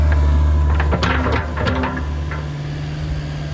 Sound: rumble

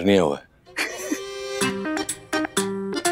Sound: both laughing

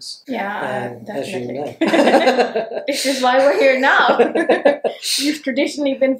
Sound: laughs

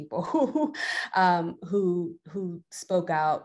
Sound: chuckles

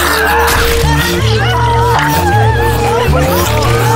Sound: a bewildered scream; agonizing scream

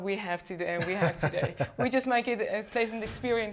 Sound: laughing

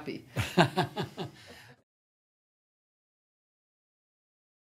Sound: interviewer laughs

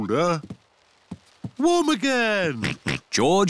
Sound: oinks

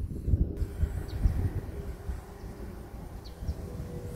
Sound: birds chirping

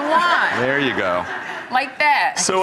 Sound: laughter

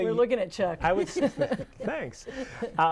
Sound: laughing

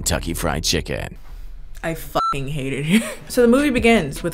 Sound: beep

